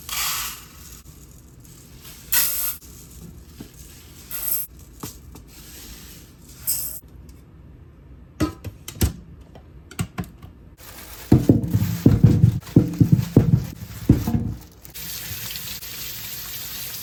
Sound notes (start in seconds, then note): 11.3 earthquake